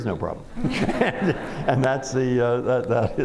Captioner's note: laughter